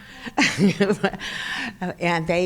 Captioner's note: chuckles